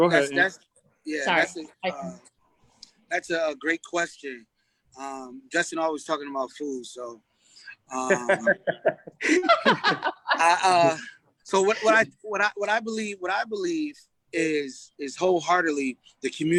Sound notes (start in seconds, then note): 7.9 laughs